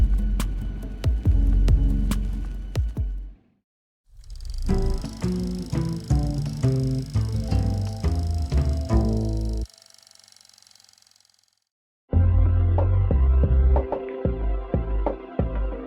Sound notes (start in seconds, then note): 4.1 reel whirring; 4.4 mellow music; 12.2 mellow music resumes